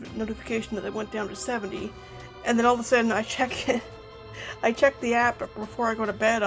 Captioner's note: laughs